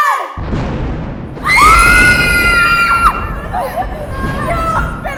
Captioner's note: thunder sounds